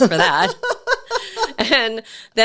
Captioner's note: laughing